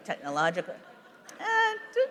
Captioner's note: laughter